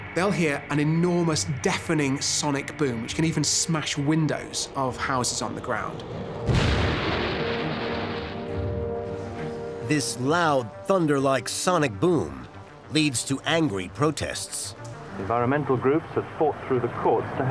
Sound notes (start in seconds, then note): 6.2 massive booming sound; 15.4 radio voice